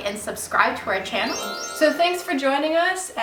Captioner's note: magical sound effect